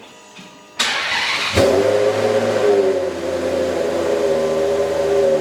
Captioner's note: engine revving